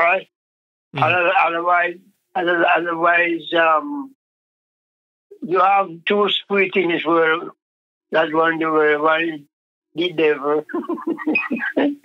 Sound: laughs

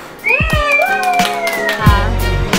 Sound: clapping; upbeat jazzy music

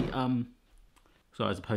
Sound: clattering thud

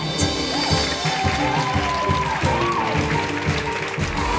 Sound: all applauding

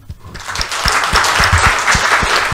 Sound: audience clapping

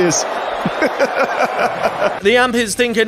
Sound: laughing

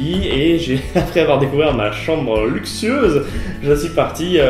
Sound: laugh

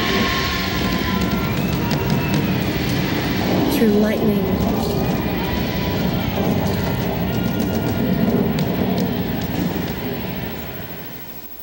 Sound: thunder, drums

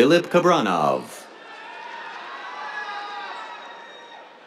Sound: cheers, applause

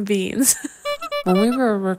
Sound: laughing; clown horn

